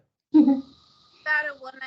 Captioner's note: chuckling